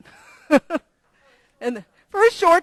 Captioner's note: laugh